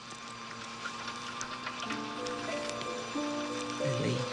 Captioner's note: machines whirring